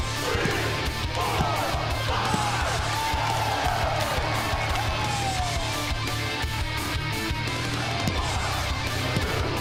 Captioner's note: crowd cheering